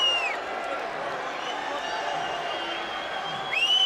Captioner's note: crowd chatter; crowd cheering